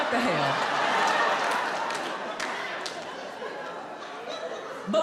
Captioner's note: audience laughs